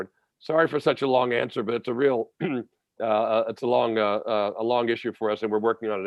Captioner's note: cough